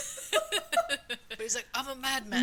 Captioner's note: laughing